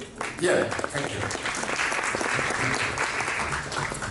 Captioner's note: cheers and applauses